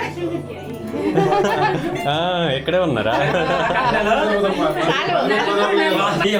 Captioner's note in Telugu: నవ్వు